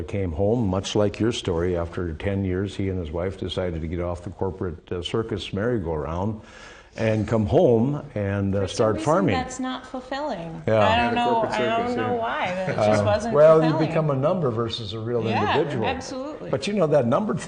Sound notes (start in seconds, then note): 14.2 laughs